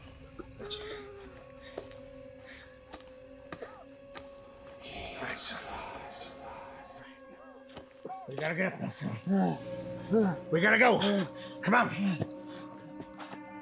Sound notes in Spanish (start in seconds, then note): 0.1 música tensa; 5.0 demonio susurrando